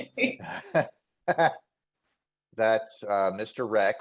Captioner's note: laughter